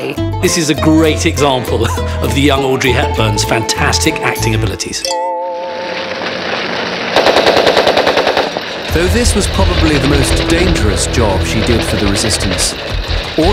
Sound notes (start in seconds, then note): 5.6 fire crackling; 7.2 gun roaring